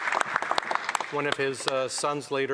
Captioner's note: some Applause